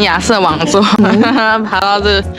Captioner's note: bitter laugh